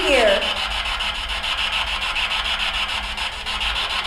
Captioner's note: static buzzing